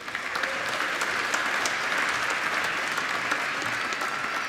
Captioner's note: applause